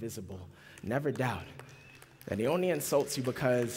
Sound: applause

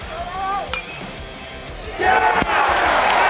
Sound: ball hitting bat

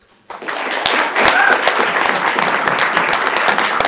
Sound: applauding

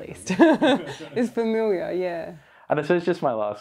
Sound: laughs

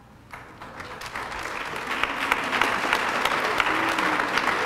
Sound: applause

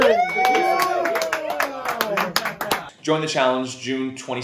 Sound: cheering

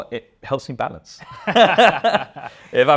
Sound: both laugh

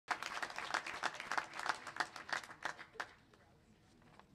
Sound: clapping

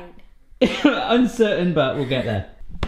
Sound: laughing

